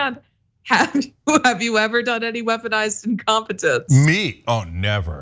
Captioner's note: laugh